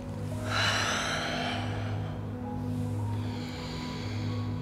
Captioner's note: heavy breathing